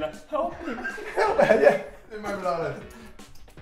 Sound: laughing

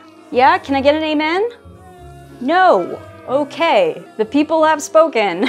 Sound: chorus of jeers and boos; jeering and booing continues

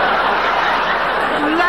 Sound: audience laughing

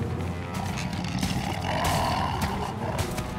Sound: screeching

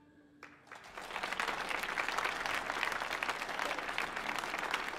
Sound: audience applauding

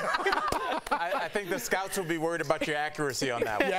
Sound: laughter

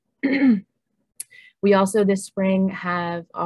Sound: clears throat

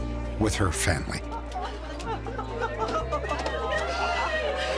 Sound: laughter

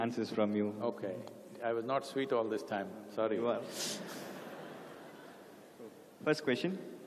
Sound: laughter

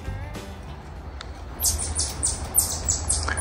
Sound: chirping

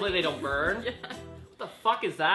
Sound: laughs

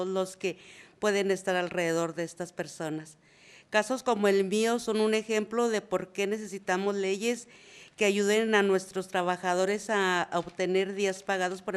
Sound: reading in spanish

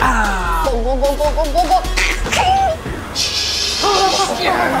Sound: imitates gulping

